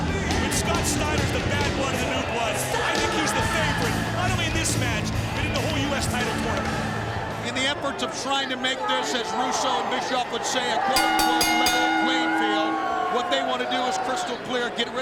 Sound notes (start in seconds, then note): 11.0 bell rings